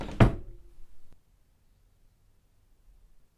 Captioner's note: door shuts